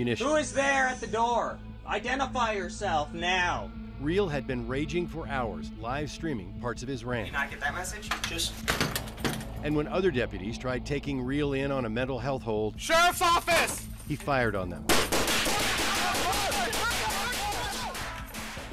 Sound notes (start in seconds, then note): 8.1 door slams; 15.0 rapid gunshots, shouting